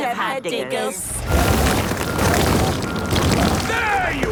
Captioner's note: rock crumbling